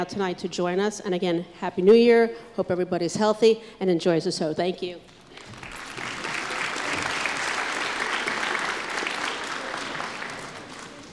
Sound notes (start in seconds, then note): 5.3 applause